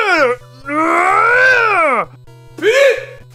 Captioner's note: growl of frustration